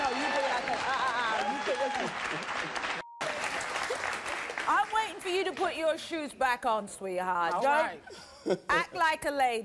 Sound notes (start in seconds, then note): 1.1 laughing